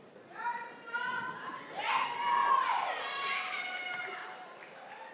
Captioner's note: applause